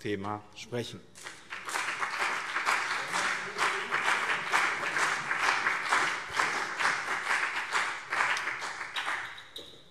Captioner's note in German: Beifall BÜNDNIS 90/DIE GRÜNEN und CDU